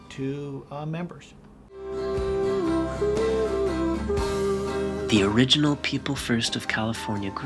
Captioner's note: voiceover